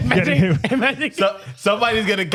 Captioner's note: laughing